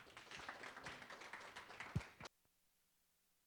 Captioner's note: applause